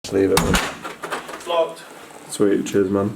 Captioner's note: door knob rattling